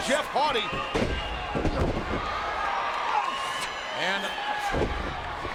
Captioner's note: bodies thud